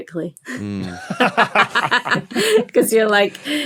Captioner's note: laugh